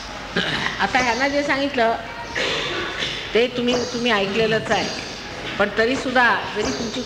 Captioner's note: continues speaking in Marathi